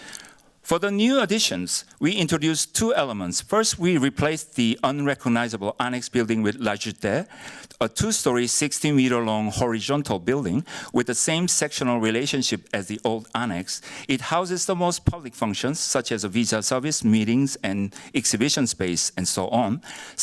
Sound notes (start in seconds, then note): 6.8 korean